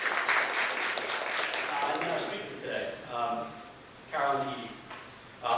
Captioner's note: applause